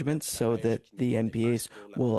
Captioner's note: speaking French